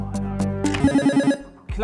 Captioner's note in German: Buzzer